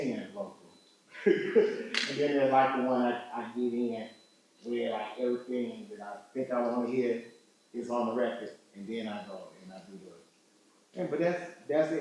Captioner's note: laughs